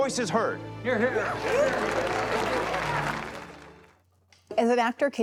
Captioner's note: audience clapping